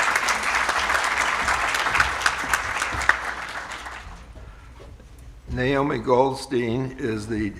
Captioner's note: applause